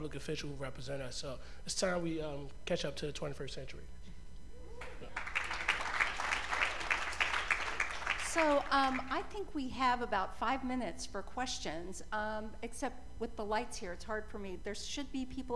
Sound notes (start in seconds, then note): 5.1 cheers and applause